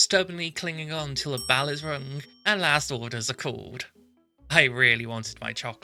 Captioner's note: ring